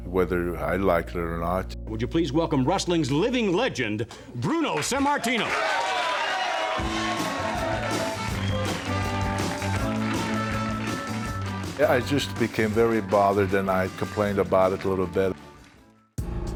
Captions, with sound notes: whether I like it or not. Would you please welcome wrestling's living legend, Bruno Sammartino. (audience cheering) (upbeat music) Yeah, I just became very bothered and I complained about it a little bit.